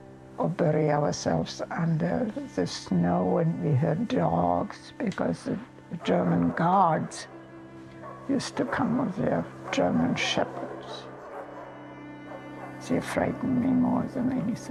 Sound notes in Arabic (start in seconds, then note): 6.9 نباح الكلاب